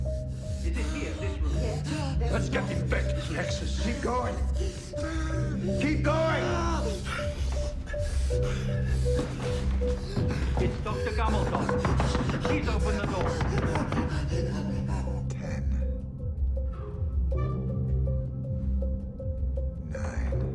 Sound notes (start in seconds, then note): 4.5 Palle pants and groans; 11.2 frantic knocks